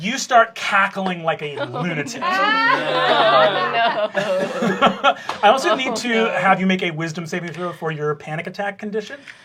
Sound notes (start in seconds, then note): 0.9 laughter